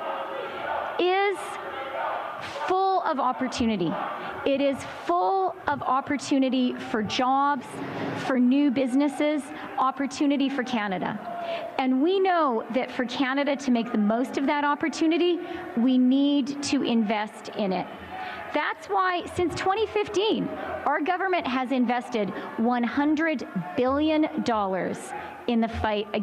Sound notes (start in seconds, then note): 9.0 chanting